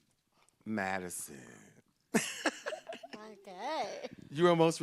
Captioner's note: laughs